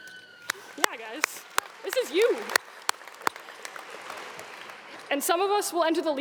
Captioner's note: audience clapping